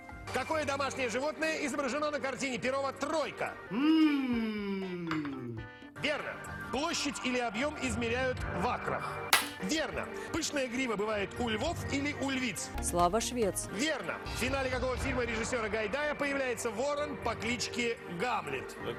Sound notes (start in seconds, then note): 9.4 Hikakin's strong handclap